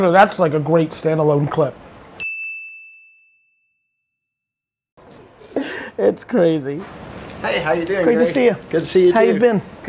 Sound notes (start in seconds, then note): 2.2 dings